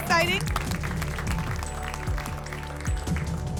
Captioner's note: applause